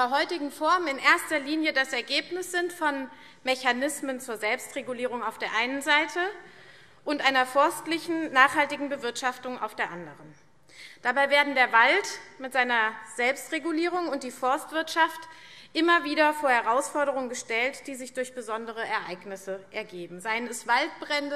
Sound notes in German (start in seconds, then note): none